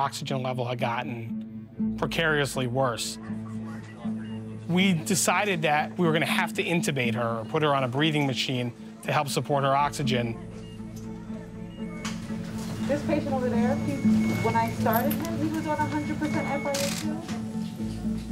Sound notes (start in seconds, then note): 9.9 monitor beeping